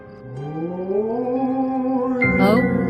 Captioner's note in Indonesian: suara hantu